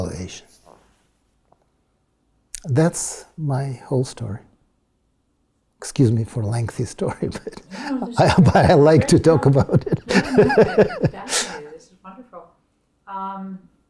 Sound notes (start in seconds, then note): 7.1 laugh